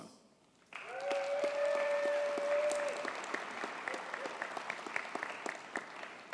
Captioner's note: audience cheers and applauds